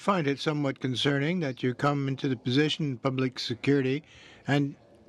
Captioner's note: speaking French